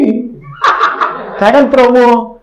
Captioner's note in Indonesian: Audiens tertawa